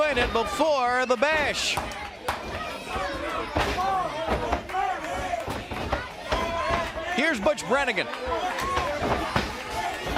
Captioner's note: crowd chatter